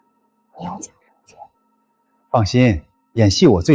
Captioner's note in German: Antwort mit verstellter Stimme